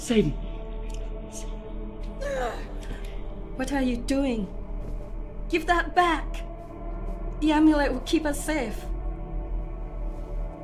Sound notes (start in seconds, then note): 0.8 eerie music; 2.2 Sakura yelps